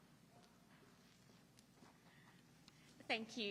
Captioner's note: footsteps approaching